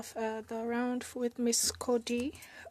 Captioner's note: speaking in French